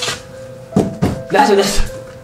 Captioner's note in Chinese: 咚咚